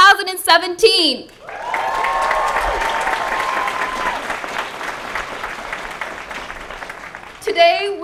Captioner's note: applause